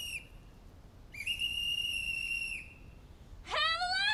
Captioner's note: whistle blows